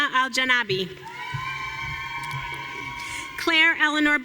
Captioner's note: audience cheering